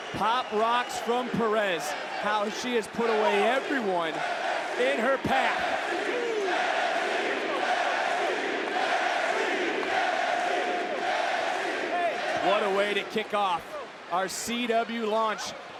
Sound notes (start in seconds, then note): 4.5 audience chanting